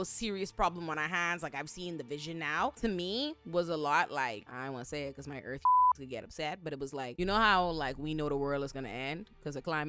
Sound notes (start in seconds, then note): 5.6 beep